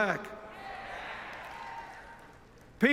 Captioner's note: cheers